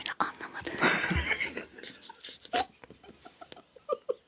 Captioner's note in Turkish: kahkaha